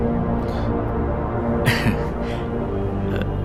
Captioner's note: snickers